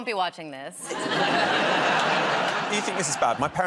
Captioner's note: laughter